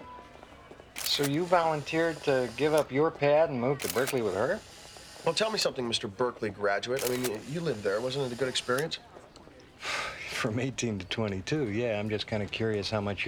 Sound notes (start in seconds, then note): 0.9 camera shutter clicking